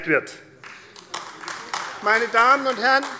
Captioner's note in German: Beifall AfD